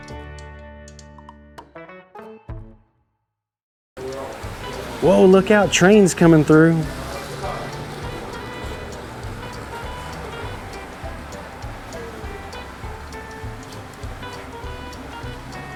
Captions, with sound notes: Whoa, look out, train's coming through. (train whirs) (upbeat music continues)